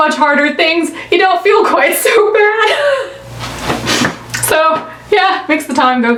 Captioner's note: laughs